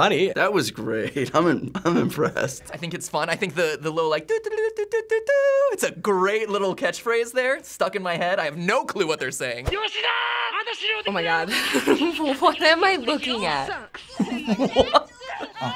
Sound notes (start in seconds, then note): 5.1 hums ditty; 9.7 laughs; 9.9 in ad: fearful screaming; 13.8 through laughter; 15.5 speaking Japanese